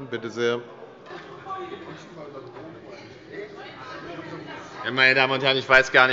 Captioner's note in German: Zurufe von der CDU und dem BÜNDNIS 90/DIE GRÜNEN